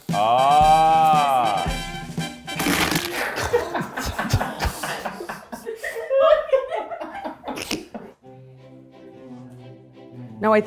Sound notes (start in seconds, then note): 0.0 triumphant music; 2.5 bread crunches; 2.6 crew laughing; 8.2 gentle lilting music